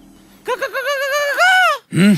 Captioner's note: Screaming